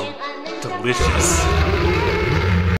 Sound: angry Noises

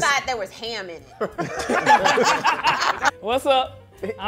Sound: group laughing

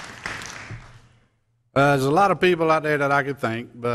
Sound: applause

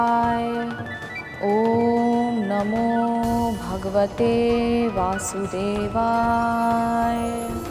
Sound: chanting

